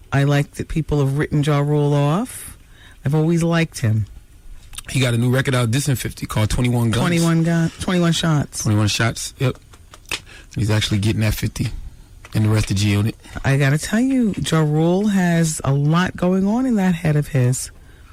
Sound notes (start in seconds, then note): none